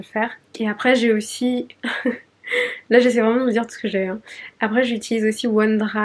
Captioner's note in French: rires